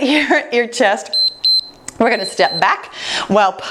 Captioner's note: timer beeps